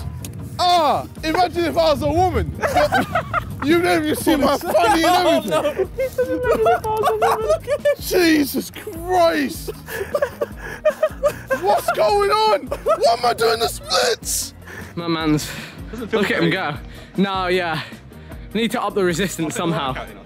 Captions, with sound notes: Oh, imagine if I was a woman. (laughs) - You'd be able to see fucking everything. (laughs) Jesus Christ! What's going on? Why am I doing the splits!? - C'mon man No. Yeah, we need to up the resistance somehow.